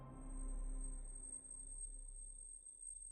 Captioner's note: moaning